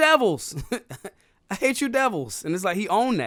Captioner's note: laughing